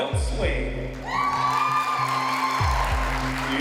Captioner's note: applause and cheering